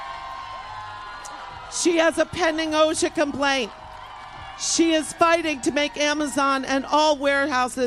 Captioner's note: applause